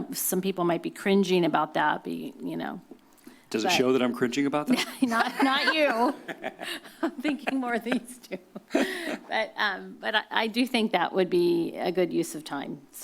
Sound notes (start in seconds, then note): 4.8 laughs